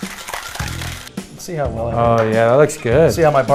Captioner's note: ice shaking in container